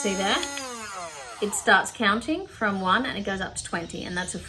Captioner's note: double-click and blender whirrs; blender stops